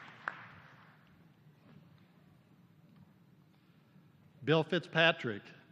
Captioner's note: applause